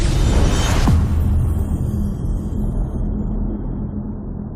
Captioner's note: dramatic sound